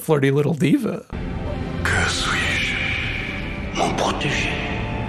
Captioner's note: Nick, in French